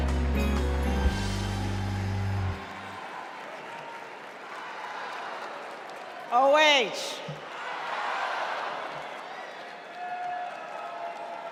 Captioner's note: applause